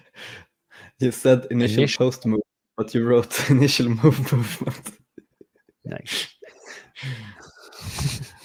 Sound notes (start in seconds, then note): 4.3 chuckling